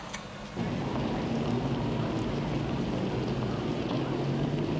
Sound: traffic rumbling

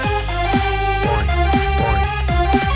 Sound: SFX: "Boing. Boing."

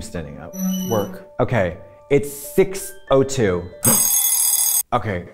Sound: bell rings

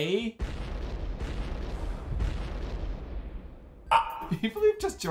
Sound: quiet explosions and a small phil squak

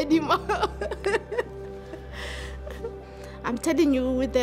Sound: laughs

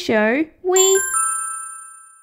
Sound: ding!

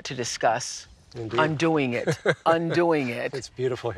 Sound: laughs

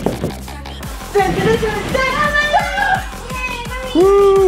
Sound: cheers

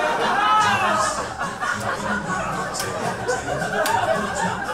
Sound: audience laughs

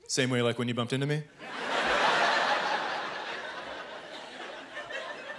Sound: laughter

